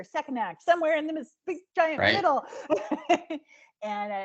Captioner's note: giggling